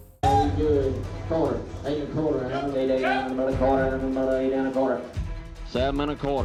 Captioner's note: auctioneering